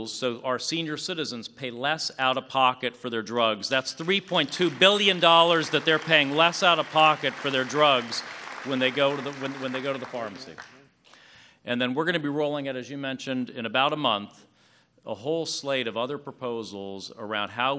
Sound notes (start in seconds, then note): 10.5 applause